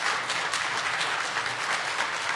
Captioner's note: applause